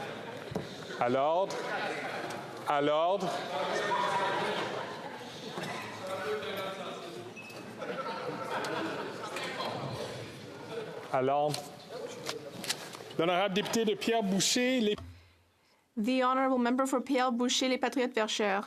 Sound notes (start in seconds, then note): 8.9 speaking French